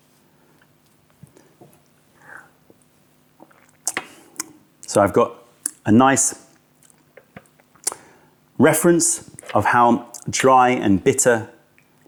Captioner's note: sips tea; sips tea